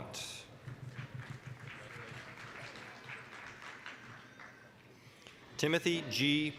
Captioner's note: applause